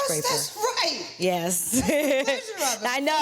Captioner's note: laughs